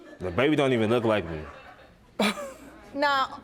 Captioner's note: scoffs